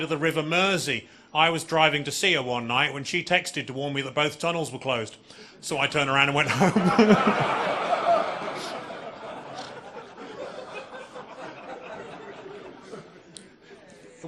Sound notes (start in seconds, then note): 6.4 audience laughing